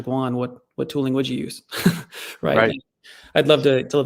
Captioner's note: chuckles